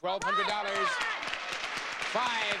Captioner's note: audience cheering; audience applauding